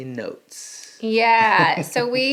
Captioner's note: giggling